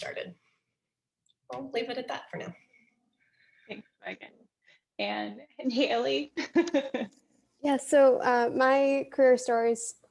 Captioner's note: laughter